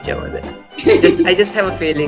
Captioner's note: laughs